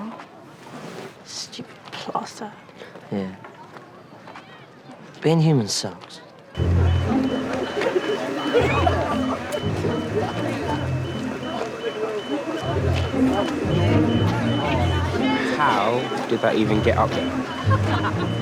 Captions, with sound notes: Should have healed by now. -Stupid plaster. -Yeah. Being human sucks. [students giggling] [hydraulic lift beeping] How did that even get up there?